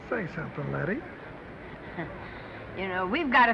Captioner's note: Lettie chuckles